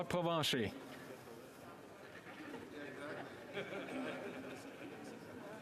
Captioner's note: speaking French